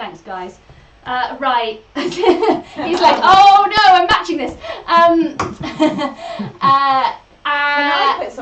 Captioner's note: laughs